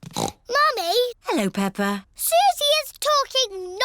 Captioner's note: snorts